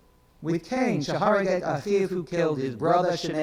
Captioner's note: speaks in foreign language